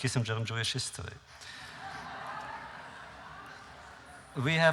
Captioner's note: laughter